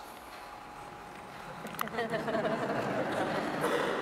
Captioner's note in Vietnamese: tiếng cười